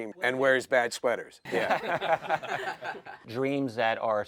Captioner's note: laughter